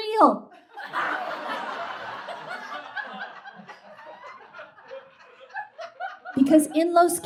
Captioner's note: audience laughs